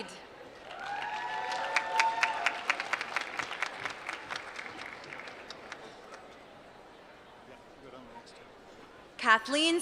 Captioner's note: applause